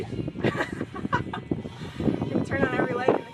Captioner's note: laughs